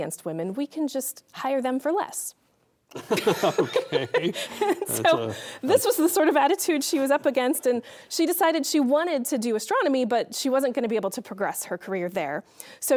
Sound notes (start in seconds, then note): 2.9 laughing